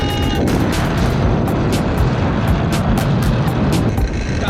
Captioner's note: water crashes